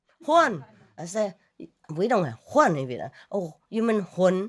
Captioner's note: Vietnamese